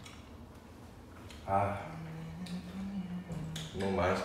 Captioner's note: humming away